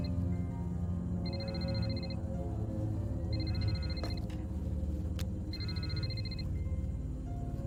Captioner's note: phone ringing